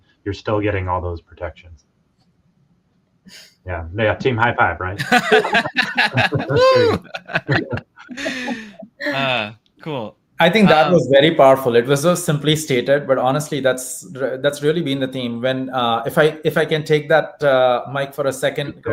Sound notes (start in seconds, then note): 5.0 laughs